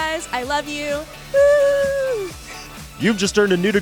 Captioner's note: cheering